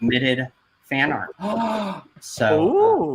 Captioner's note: gasps